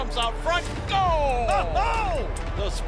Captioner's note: announcer laughs